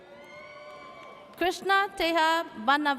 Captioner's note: audience cheers